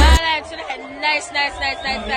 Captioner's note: bell